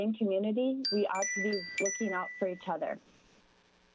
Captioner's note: chime